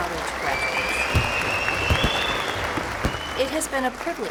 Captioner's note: applause